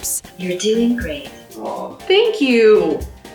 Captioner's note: computerized Voice